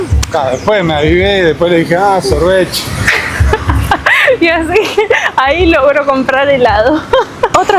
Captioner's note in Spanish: risas